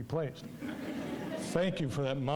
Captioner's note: audience laughing